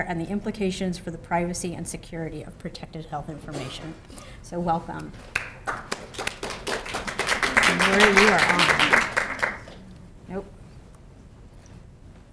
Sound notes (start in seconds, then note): 5.3 applause